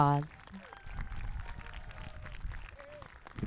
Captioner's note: applause